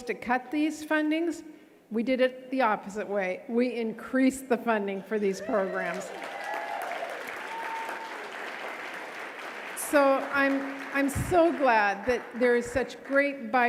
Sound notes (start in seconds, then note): 5.4 audience cheering and clapping